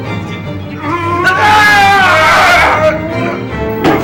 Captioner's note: grunts; screams; groans